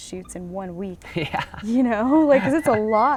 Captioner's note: laughs